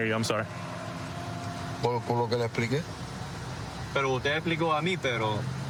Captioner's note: speaking spanish